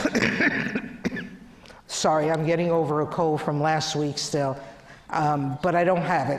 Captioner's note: cough